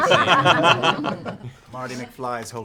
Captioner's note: laughter